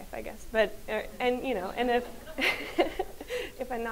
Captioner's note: laughs